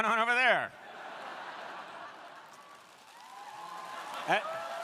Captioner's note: crowd laughing; crowd cheering